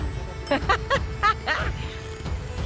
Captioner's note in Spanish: risas